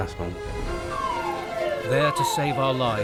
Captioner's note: siren wailing